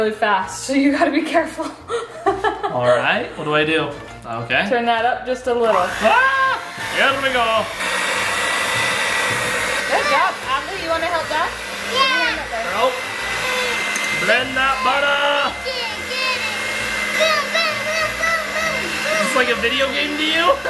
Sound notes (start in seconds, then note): 1.9 laughs; 6.1 screams; 17.7 yelling